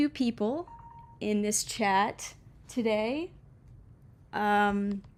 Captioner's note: small beep from phone